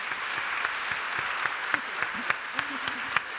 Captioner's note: applause